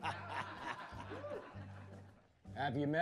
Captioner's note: laughs